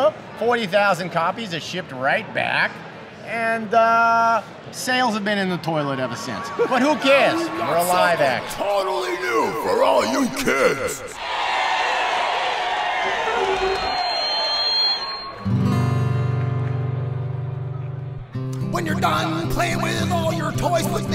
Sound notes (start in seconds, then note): 11.4 kids cheering; 15.3 guitar strums